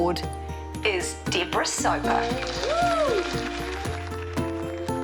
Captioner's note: cheers and applause